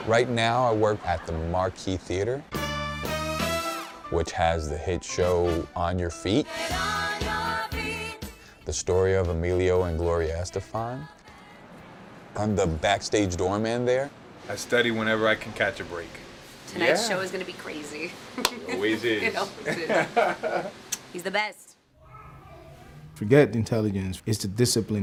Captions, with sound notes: Right now I work at the Marquis Theater, which has the hit show, On Your Feet. >> Get on your feet. >> The story of Emilio and Gloria Estefan. I'm the backstage door man there. I study whenever I can catch a break. >> Tonight's show is gonna be crazy [LAUGH]. >> Always is [LAUGH]. >> It always is. He's the best. To get intelligence is the discipline that